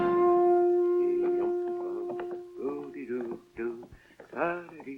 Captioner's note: Mr. Cogmire humming